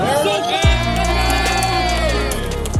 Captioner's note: cheering